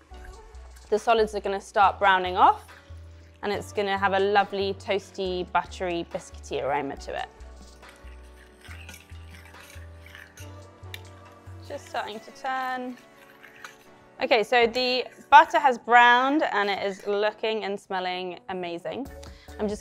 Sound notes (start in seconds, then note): 7.9 soft upbeat music; 7.9 spoon scraping